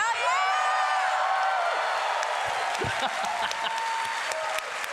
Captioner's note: cheering